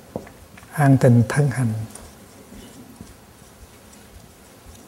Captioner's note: Vietnamese